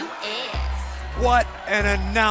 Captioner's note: crowd cheering